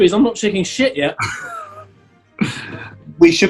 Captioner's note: chuckling